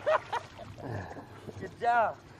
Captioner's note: laughs